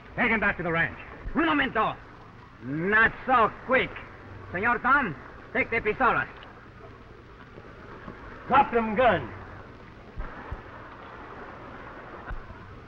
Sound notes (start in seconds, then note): 1.7 Pablo speaking in foreign language